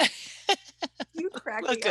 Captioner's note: laughter